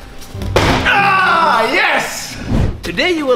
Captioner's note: yelling